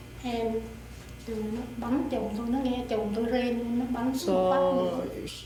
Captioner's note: speaking Vietnamese